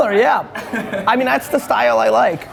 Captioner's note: laughing